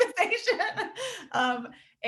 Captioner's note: laughing